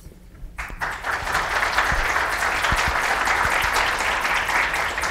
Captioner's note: audience applauds